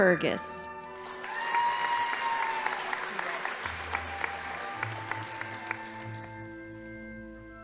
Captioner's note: audience applauding; crowd cheering